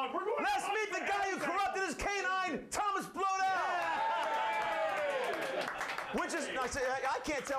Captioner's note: audience cheers